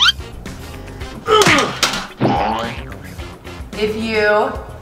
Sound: laughs; grunting

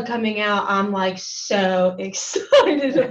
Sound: laughing

